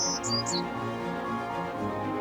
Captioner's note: loud bird chirping